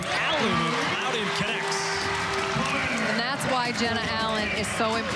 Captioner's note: crowd cheering